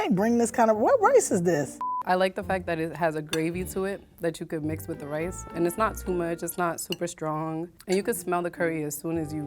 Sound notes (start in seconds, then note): 1.8 beep